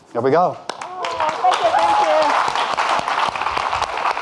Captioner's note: audience clapping